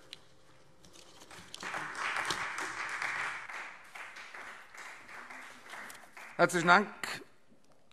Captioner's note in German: Beifall Freie Demokraten